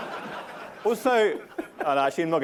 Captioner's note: laughter